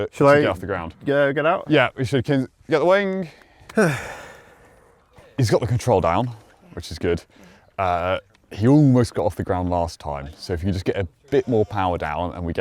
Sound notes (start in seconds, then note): 3.7 sighs